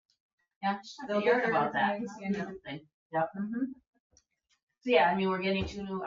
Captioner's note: people chatter